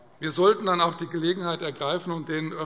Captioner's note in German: none